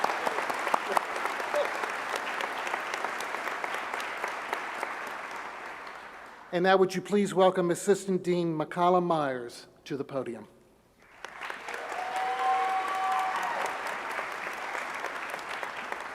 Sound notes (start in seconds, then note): 2.8 applause